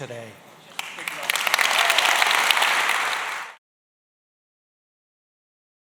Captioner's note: applause